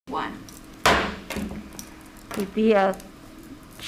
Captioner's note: gavel bangs